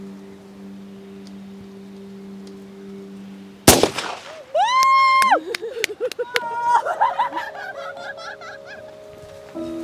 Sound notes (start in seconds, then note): 3.6 gun shot; 4.5 women cheering; 5.2 laughing